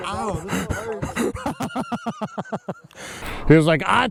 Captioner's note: laughing